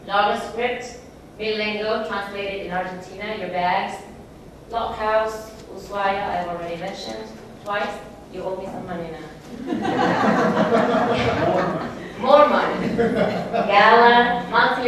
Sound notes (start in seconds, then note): 9.4 laughs